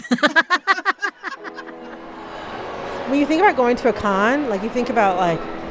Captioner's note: laughter